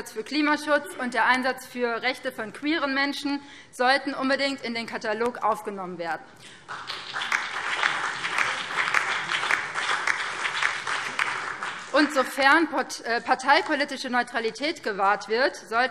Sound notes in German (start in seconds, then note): 6.5 Beifall BÜNDNIS 90/DIE GRÜNEN, SPD und DIE LINKE